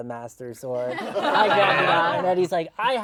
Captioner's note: laughter